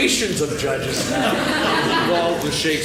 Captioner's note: laughing